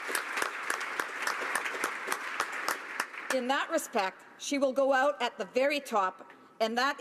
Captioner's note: applause